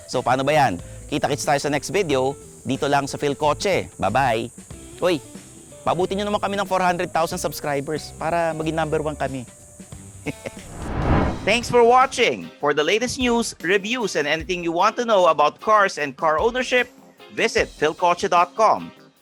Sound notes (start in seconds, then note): 10.2 chuckles